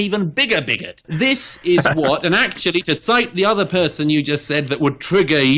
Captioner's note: Harris laughs